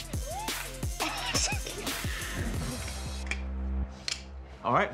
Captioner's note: laughing